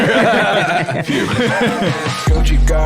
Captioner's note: all laughing; outro music